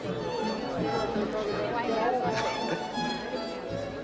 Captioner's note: indistinct Chatter